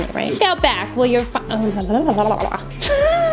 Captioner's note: babbling